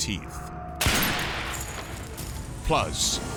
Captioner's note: gun bangs; glass shatters